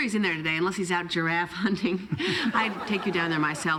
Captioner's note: laughs